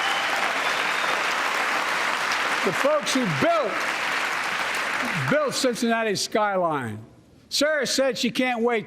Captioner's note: applause